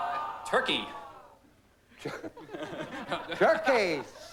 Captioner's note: chuckles